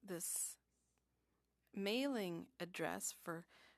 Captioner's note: speaking French